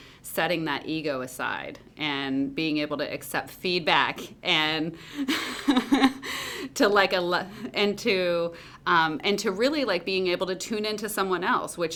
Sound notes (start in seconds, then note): 5.2 laughs